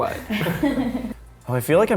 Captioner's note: laughter